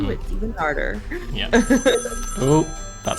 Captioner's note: phone rings